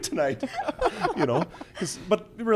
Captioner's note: laughs